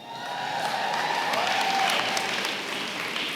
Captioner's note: applause